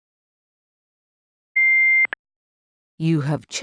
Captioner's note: beep